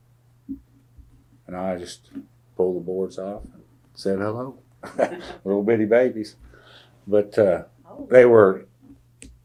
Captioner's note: laughs